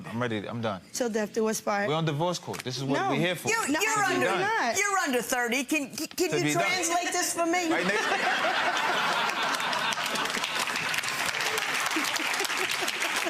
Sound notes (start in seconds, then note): 7.7 spectators laughing; 8.7 spectators clapping